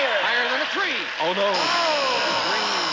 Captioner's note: buzzer sounds